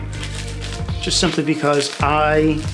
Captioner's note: rustling